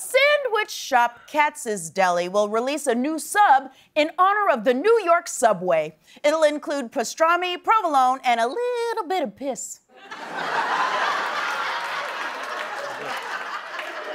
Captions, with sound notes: Sandwich shop Katz's Deli will release a new sub in honor of the New York subway. It'll include pastrami, provolone, and a little bit of piss. [laughter]